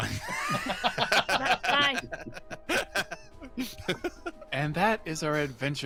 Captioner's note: laughs